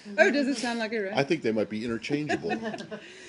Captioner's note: laughter